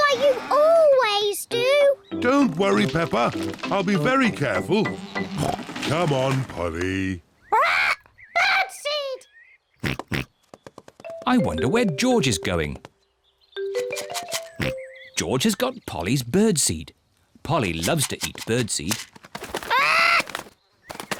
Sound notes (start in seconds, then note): 7.6 oinks; 11.6 rattles seed; 19.1 giggles